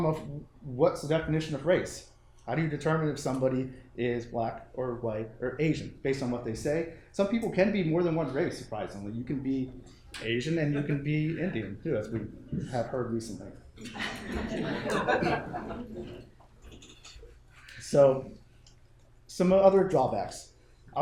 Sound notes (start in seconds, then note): 13.8 attendees laughing